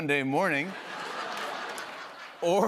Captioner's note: laughter